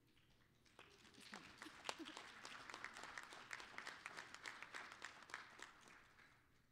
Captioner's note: applause